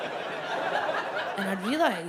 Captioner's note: audience laughs